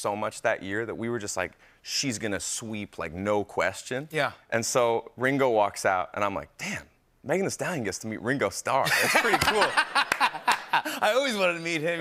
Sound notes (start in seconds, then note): 8.8 laughter